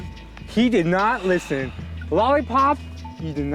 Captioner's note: heavy sigh